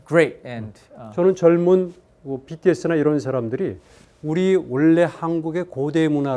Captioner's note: speaking in Korean